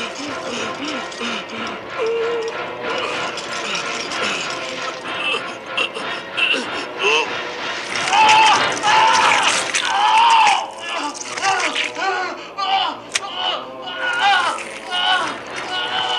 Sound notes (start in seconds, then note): 0.0 choking sounds; 6.7 music intensifies; 7.8 squish; 11.9 squishes & screams; 13.2 splat